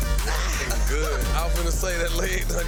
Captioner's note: man laughing